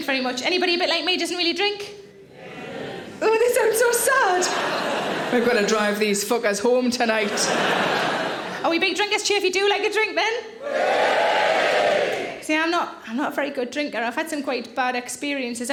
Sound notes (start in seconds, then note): 4.1 audience laughing; 10.6 audience cheering